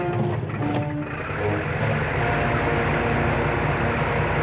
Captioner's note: dramatic music; plane whirring